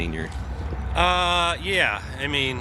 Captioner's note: heavy truck engine rumbles